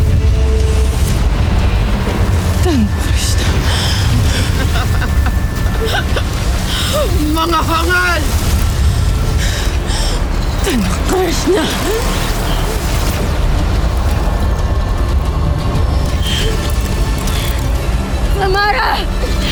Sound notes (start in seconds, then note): 4.5 cackles; 8.3 evil energy whoosh & crackle; 11.6 evil energy whoosh & crackle; 11.6 intense music playing